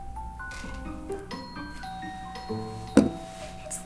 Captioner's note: doorbell chimes twice